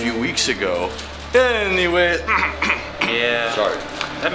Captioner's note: clearing troat